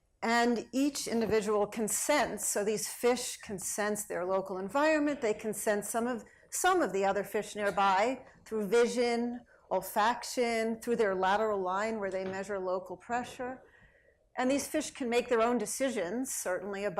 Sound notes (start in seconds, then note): none